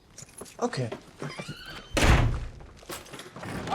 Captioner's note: door slams shut